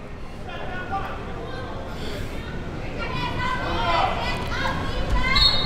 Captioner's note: crowd talking and yelling